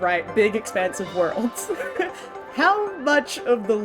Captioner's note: chuckles